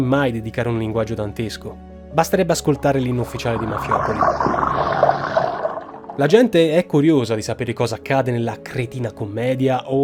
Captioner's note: toilet drain